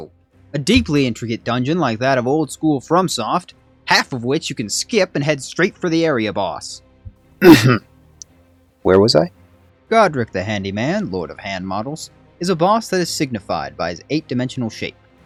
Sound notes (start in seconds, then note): 7.4 ahem